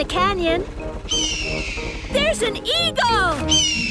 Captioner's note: eagle shriek; eagle shriek